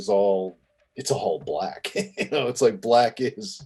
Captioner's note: laughing